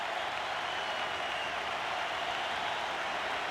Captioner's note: applause; cheering and Applause; applause; cheering and Applause